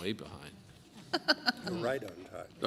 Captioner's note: laughter